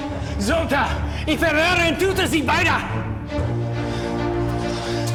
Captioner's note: Siegmund speaking German; suspenseful music